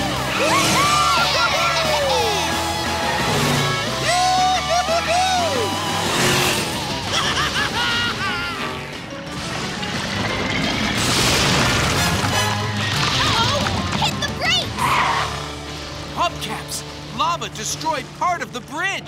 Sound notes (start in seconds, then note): 7.1 giggling